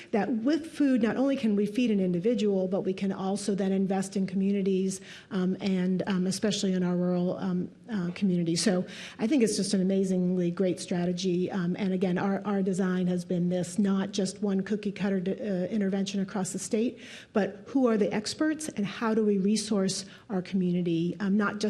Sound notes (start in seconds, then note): none